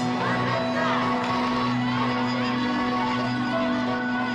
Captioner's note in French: cloche sonne